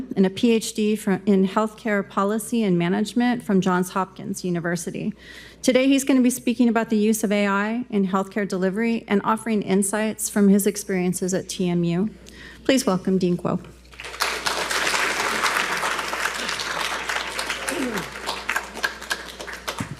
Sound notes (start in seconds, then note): 13.9 attendees applauding